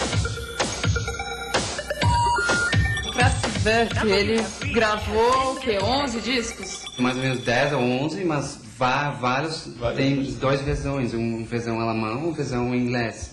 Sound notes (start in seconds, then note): 8.5 laughter; 12.3 giggling